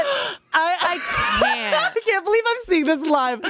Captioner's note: everyone laughs